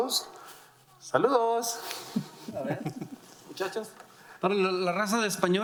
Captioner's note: speaking in foreign language